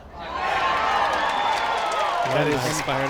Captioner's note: crowd cheers